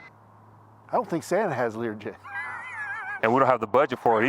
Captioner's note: laughs